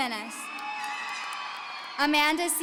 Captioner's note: audience cheering